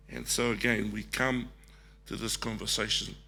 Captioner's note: none